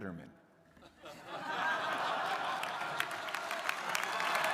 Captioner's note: crowd laughing